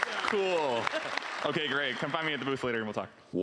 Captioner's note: cheering and applause